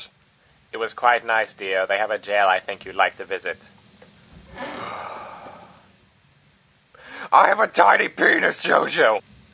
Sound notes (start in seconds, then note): 4.4 sigh